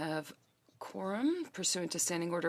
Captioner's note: speaking French